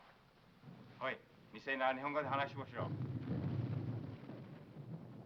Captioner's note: speaking foreign language